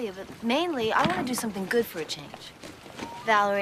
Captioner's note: all whooping